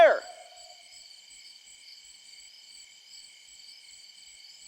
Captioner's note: crickets chirping